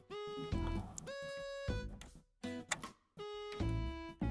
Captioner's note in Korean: none